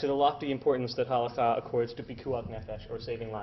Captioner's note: Hebrew